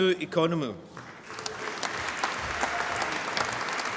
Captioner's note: applause